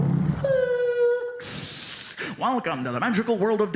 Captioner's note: brakes screeching; hissing